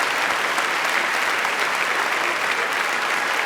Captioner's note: crowd applauds